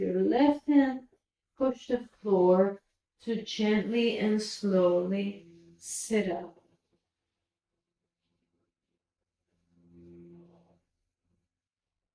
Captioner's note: silence